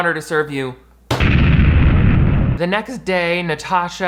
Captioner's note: explosion sounds